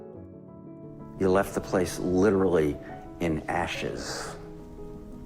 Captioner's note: voiceover